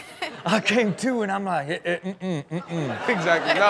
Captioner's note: murmurs